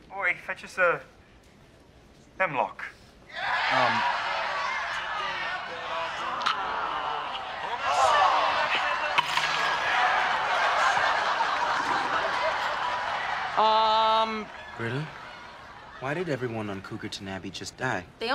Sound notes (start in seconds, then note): 3.6 laugh track in the show; 10.2 more laughter from the show